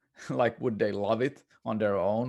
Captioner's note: chuckles